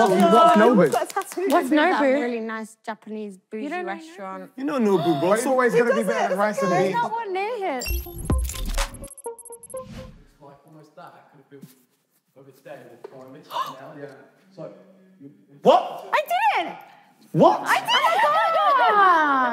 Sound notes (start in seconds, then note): 7.8 upbeat music; 13.5 gasping